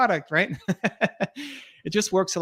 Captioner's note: laughs